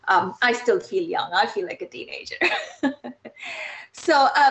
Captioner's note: laughs